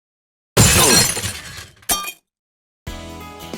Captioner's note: shattering glass and a thud